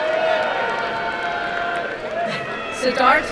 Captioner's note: crowd cheering and applauding